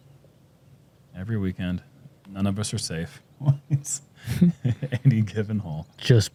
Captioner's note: chuckles